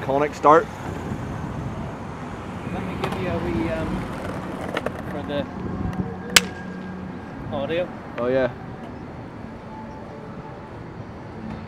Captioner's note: clap noise